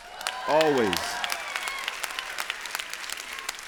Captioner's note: applause